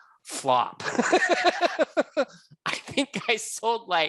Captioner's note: laughing